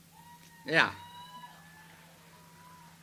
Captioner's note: audience cheers